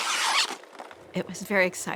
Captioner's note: polystyrene packing squeaks